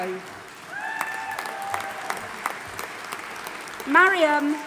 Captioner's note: audience applauding and cheering